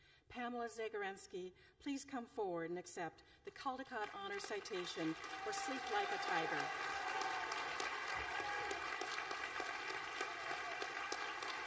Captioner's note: applause